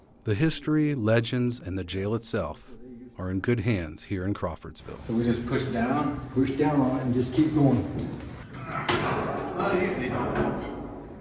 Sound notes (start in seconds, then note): 8.5 man grunts